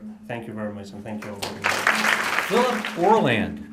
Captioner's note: applause